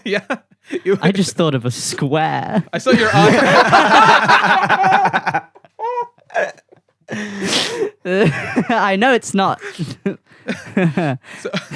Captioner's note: laughter